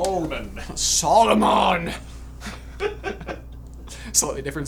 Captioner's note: laughter